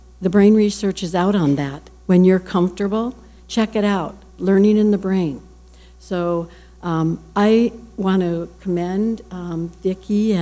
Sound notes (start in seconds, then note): none